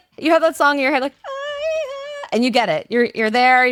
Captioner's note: vocalizes